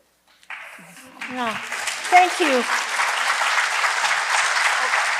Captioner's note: audience applause